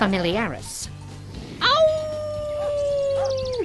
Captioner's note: howls